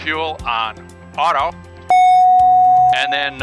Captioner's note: beeping sound